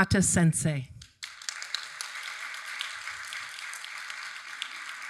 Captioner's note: audience applauding